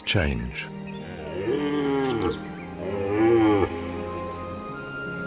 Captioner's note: deer roaring